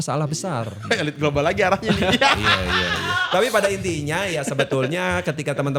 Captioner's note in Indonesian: tertawa